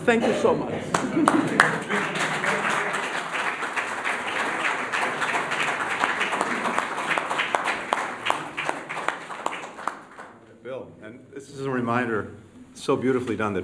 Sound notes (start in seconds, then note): 0.8 applause